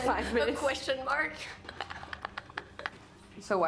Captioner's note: laughing